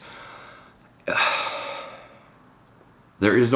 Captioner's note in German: seufzt